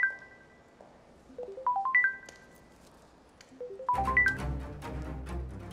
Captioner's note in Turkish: Telefon Çalıyor